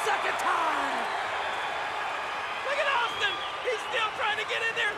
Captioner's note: applause